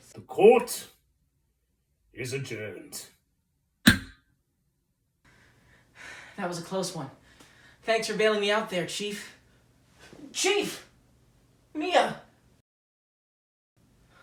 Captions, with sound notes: The court is adjourned! [Gavel.] PHOENIX That was a close one. Thanks for bailing me out there, Chief! Chief! Mia...